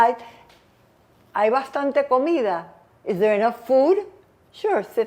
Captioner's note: spanish